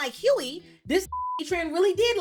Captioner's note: beep